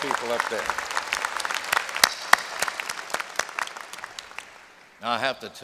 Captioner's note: applause